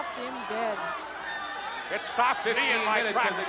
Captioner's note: audience chattering and shouting